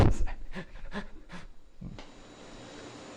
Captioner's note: chuckles